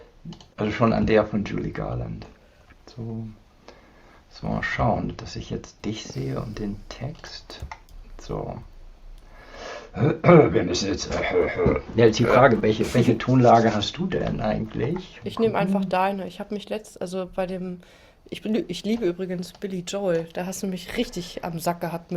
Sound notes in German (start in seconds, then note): 9.8 räuspern